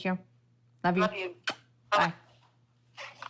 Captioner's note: blows kiss